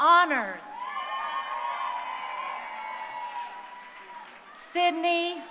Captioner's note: crowd cheering